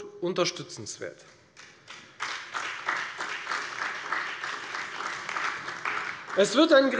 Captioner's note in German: Beifall bei der FDP, der SPD und der LINKEN